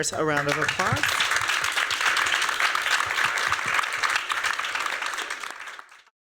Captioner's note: applause